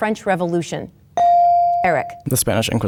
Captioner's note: bell dings